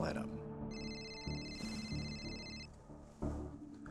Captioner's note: phone ringing